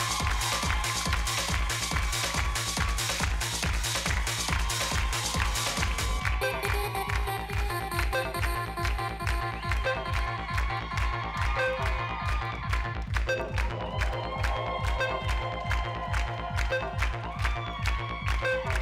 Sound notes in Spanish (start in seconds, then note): 0.2 Gritos y exclamaciones; 3.8 Palmadas al compás; 10.4 Gritos y exclamaciones